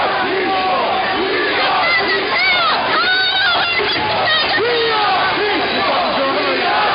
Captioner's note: shouting